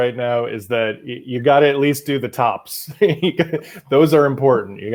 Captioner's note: laughs